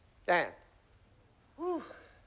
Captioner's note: sighs